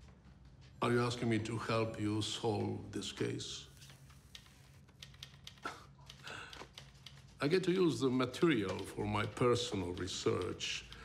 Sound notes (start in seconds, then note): 5.6 chuckles